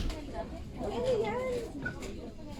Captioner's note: japanese talking